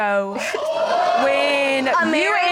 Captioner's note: audience exclaiming